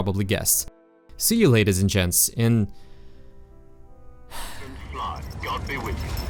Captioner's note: sigh